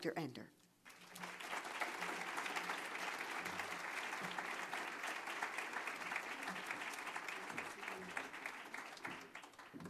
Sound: applause

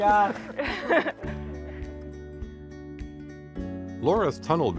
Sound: laughter

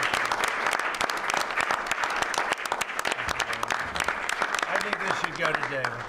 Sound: applause

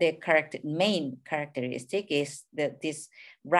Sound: speaking in a foreign language

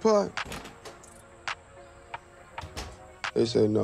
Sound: door shuts

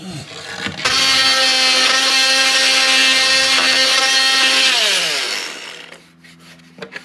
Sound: oscillating tool sounds

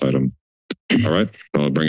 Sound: clears throat

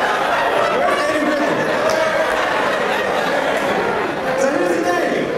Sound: laugh

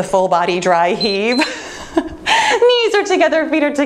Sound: timer beeps

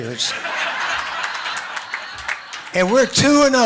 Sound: laughs

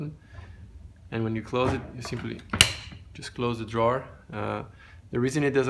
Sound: snap

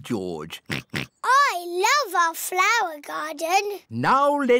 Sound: oinks

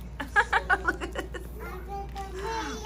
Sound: giggling

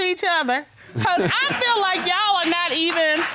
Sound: chuckles

